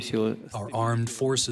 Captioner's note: through translator